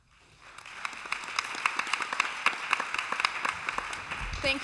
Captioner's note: applause